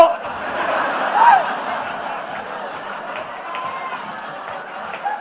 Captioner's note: laughter